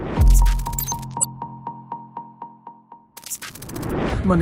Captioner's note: beep echoes